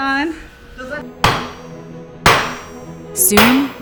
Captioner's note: energetic classical music; hammer banging